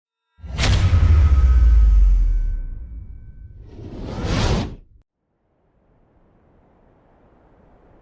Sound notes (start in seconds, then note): 0.1 logo clanking; 3.6 logo whooshing; 5.8 wind howling